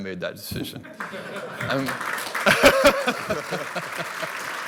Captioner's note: audience applause